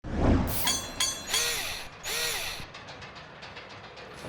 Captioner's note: mechanical SFX